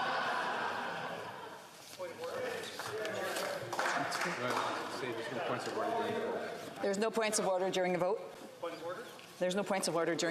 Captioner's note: applause